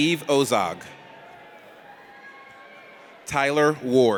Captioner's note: audience cheers